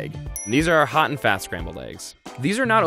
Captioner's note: dings